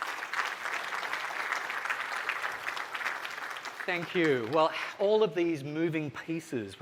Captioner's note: applause